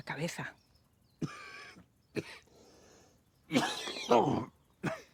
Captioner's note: Eduardo coughs